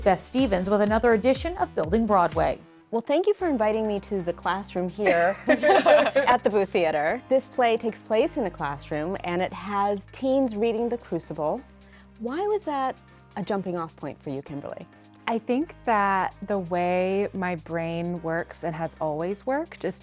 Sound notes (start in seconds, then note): 5.0 guests laugh